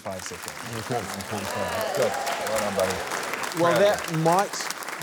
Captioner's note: cheering, applause